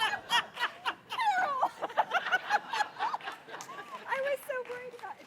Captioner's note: audience laughs; laugh